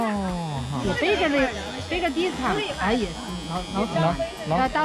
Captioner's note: speaking foreign language